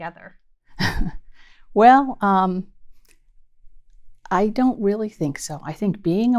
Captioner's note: laughs